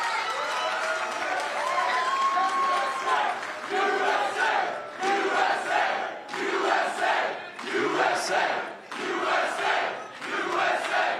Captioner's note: applause